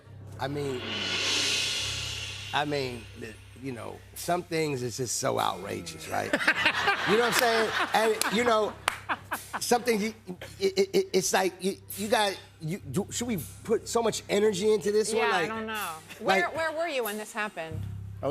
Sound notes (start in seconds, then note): 6.2 laughter